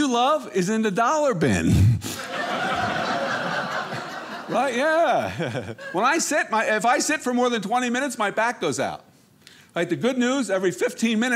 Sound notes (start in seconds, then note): 2.1 audience laughing